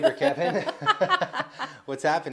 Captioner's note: laughs